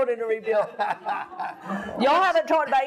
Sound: laughs

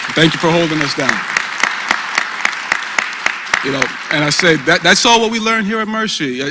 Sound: applause

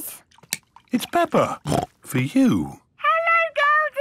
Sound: snorts

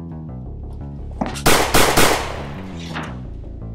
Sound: bang! bang! bang!

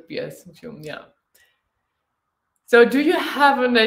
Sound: speaking German

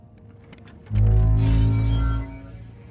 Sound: Reality Stone activation sound

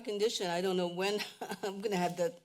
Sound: laugh

